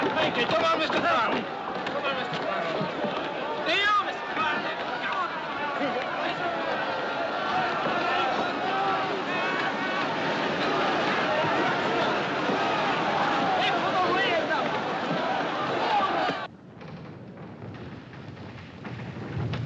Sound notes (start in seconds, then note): 16.4 rumbling